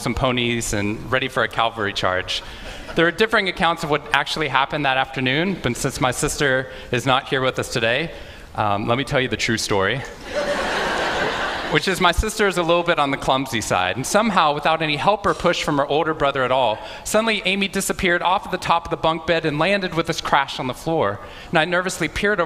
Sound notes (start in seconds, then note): 10.2 Laughter; 10.2 笑聲